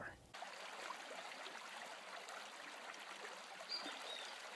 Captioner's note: water flowing